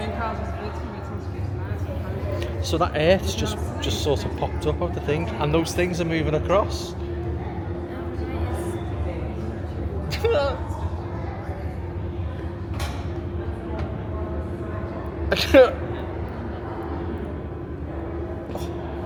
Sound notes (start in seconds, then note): 10.1 laugh